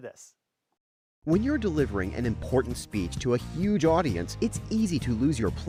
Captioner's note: voice-over